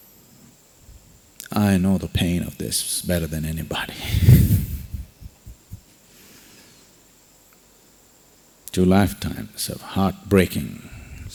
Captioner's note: laughs